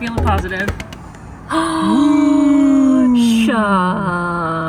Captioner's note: gasps